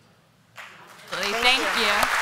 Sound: applause

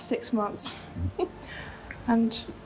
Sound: Diana giggling

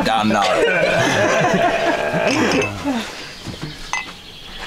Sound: laughing heartily

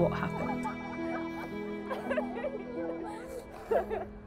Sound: laughing

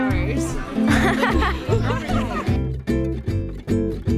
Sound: laughing; bright music

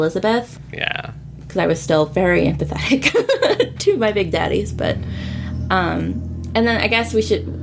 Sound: laughs

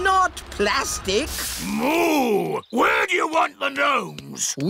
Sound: boos

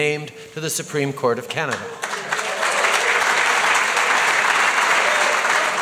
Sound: applause

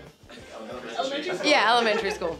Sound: laughs

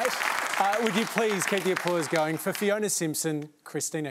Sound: applause

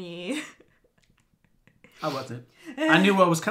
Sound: chuckles

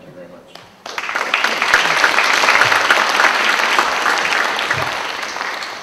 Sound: applause

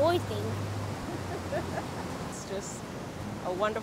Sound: laughing

